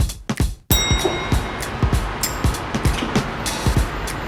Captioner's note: upbeat music; ding